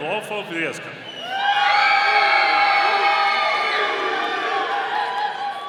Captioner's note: audience cheering